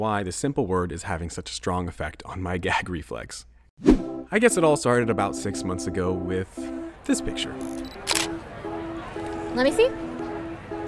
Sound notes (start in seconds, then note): 7.6 shutter